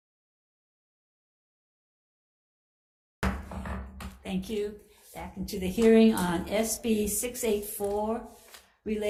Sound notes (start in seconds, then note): 3.2 gavel bangs